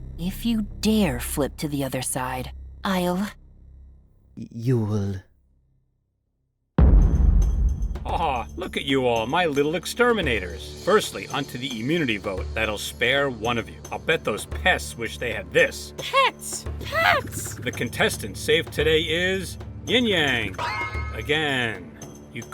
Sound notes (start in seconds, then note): 6.8 boom